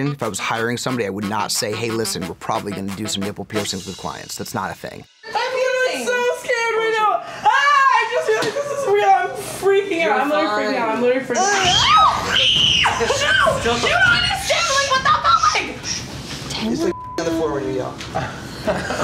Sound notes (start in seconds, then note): 11.4 screaming; 16.9 beep